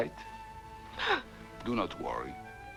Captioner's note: Hundra gasps